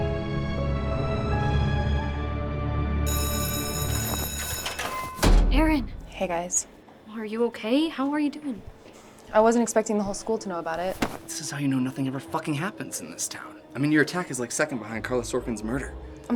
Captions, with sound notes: [bell ringing] - Erin. - Hey guys. - Are you okay, how are you doing? - I wasn't expecting the whole school to know about it. - This is how you know nothing ever fucking happens in this town. I mean your attack is like second behind Karla Sorkin's murder.